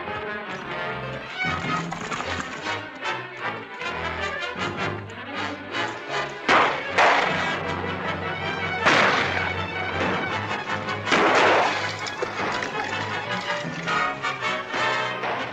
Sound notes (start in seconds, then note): 0.8 tense music; 6.5 gunshots